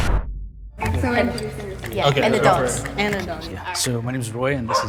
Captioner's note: chatting